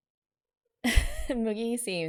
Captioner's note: laughs